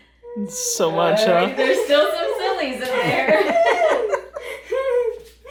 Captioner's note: laughing